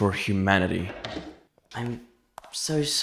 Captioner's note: door opens